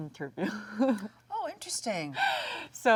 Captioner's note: Jung laughs